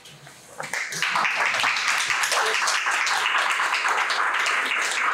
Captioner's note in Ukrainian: оплески